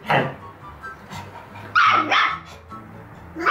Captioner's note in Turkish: köpek havlıyor